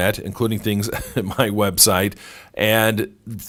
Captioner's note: laughs